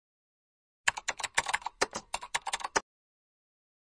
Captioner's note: Natyskannja klaviš